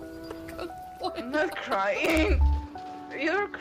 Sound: chuckles

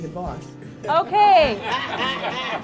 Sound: laughter

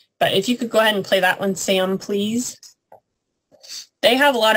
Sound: sound effect

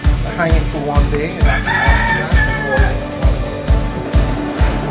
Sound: rooster crows

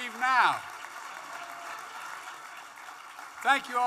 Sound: applause

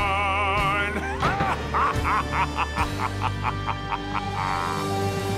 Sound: evil laugh

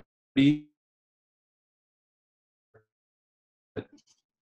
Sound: audio fades out

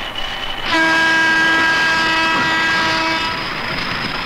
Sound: train horn blares

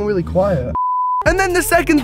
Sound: beep

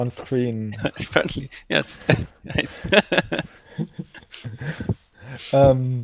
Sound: laughs

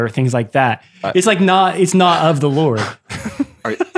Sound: friars laughing

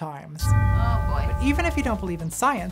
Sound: gong rings

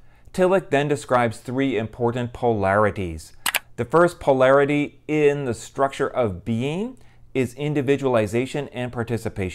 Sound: mouse click

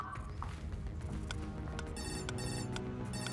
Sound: ringing

